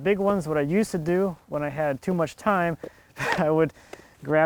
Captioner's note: laughs